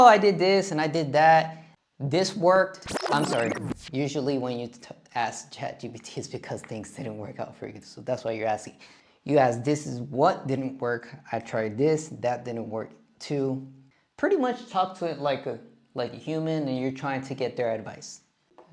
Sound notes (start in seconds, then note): 2.9 reverse playing sound